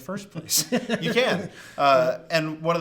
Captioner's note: both laugh